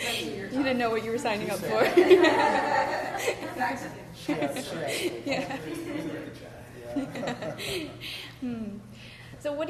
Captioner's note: laughter